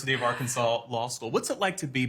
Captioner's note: laughter